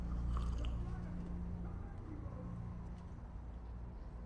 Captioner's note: Karasic sipping